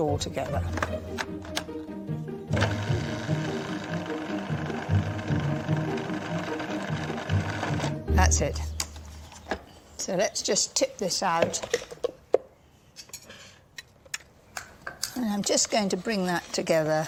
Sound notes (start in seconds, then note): none